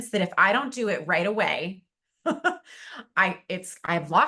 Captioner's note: chuckles